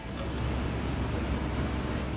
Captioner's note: Traffic